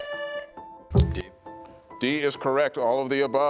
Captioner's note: buzzer sounding